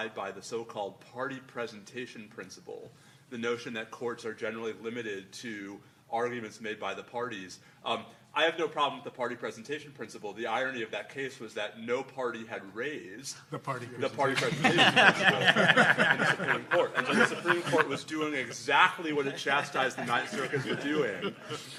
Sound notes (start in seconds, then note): 14.4 laughing